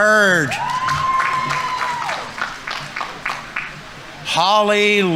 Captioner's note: audience members cheering; audience applauding